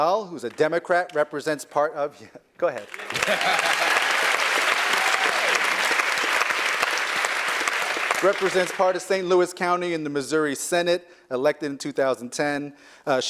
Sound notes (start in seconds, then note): 0.0 applause; 2.8 applause; 2.9 laugh